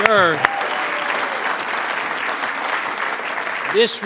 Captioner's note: audience clapping